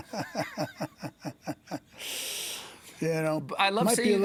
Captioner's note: laughs